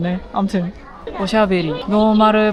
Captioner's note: chatter